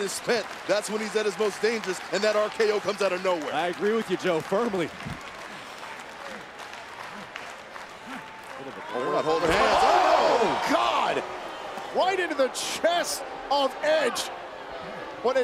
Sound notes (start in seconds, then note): 5.3 applause